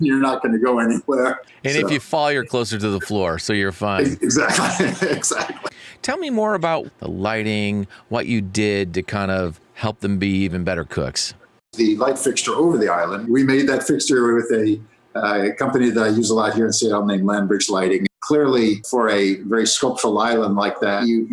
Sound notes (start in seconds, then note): 4.9 laughs